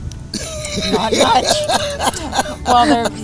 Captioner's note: laughing